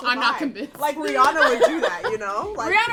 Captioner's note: laughs